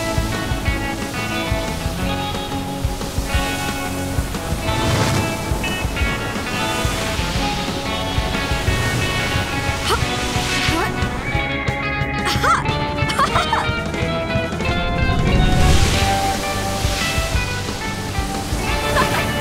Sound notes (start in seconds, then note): 1.1 waves crashing; 12.9 Joss laughs; 16.0 upbeat music